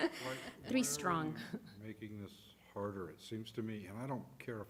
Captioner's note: laughter